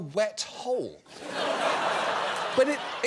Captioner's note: audience laughing